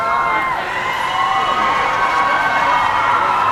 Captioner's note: cheering